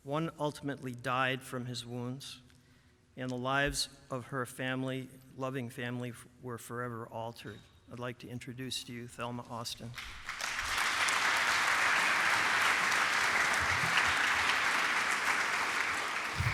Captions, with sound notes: One ultimately died from his wounds. And the lives of her loving family were forever altered. I'd like to introduce to you Thelma Austin. [APPLAUSE]